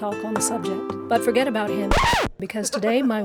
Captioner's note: record scratches